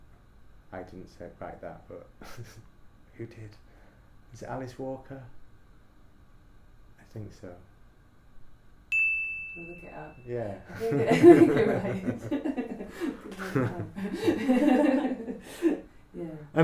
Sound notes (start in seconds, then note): 8.9 ding sound; 10.7 laughter